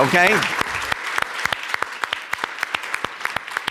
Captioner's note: clapping